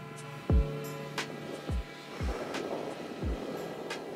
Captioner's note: wind blowing